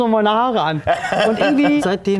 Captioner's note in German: Lachen